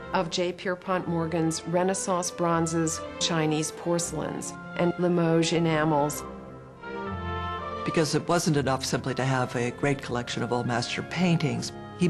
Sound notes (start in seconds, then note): 8.0 voiceover